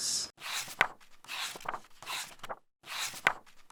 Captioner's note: pages turning